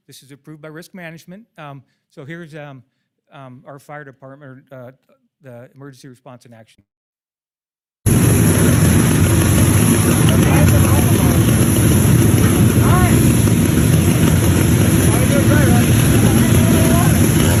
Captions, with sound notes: This is approved by risk management. So here's our fire department, the emergency response in action. (fire whooshes) - All right.